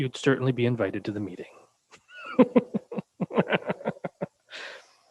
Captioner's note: chuckles